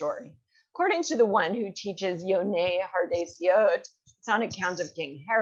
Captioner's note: hebrew